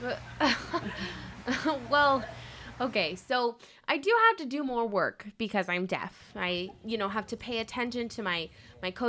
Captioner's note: laughs